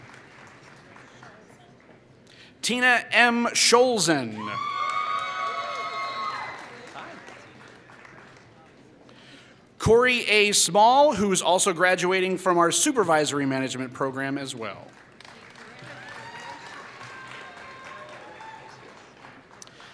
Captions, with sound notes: Tina M. Sholzen [Applause] Cory A. Small, who is also graduating from our supervisory management program as well. [Applause]